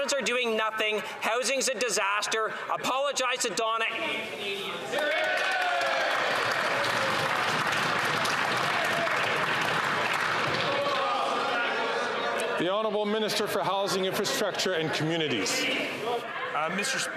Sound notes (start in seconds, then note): 6.9 some Applause